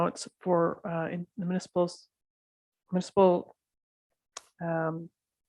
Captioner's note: stuttering